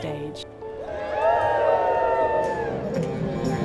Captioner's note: cheering